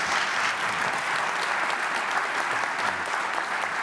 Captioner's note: applause